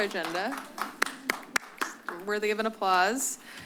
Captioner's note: applause